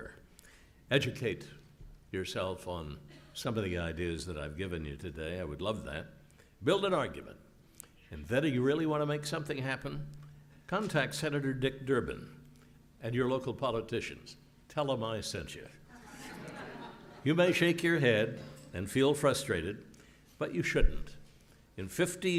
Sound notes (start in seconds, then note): 15.9 laugh